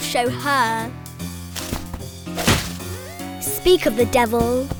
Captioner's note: bushes rustling